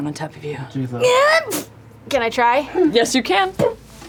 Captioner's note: sneezes